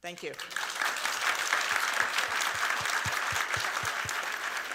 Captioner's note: audience applauds